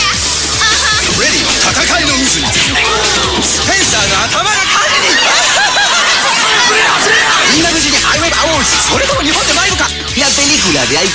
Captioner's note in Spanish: hablando en japonés